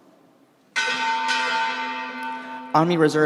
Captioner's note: bell clanging